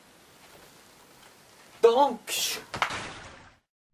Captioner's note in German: deutsch